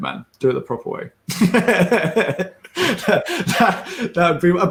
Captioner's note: laughs